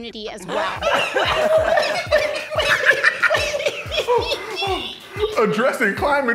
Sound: laughing

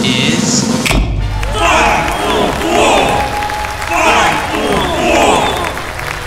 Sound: crowd chanting

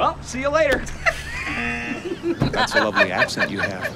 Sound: both laugh; buzzer

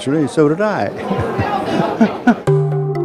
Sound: laughs

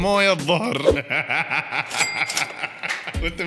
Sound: laughter

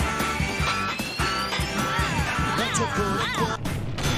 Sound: moans in washing machine

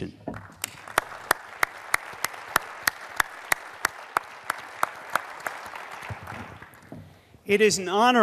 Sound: applause

